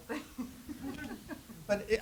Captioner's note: laughs